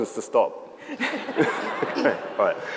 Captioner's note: audience laughs